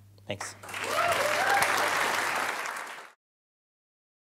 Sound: applause

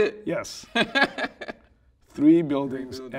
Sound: laughing

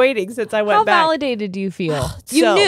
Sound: sighs

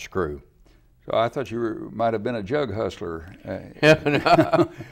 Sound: laughs

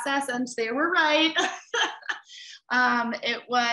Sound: laughs

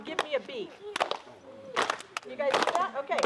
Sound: rhythmic clapping

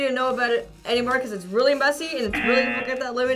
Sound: buzzer rings

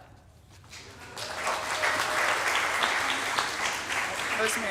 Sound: audience applauding

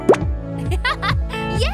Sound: giggling

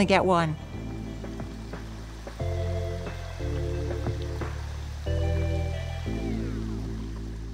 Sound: upbeat music continues; water sloshing

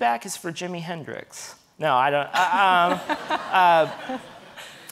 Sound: audience laughing

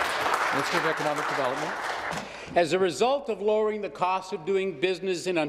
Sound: some Applause

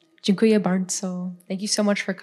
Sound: foreign language

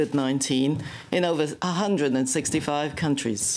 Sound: speaking French

